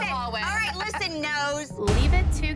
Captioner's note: boom